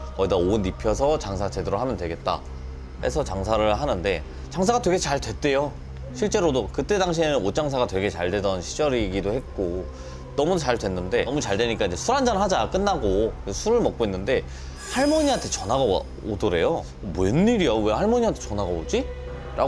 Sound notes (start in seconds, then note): 14.8 A sudden phone call